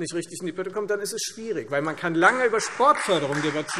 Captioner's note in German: Beifall Freie Demokraten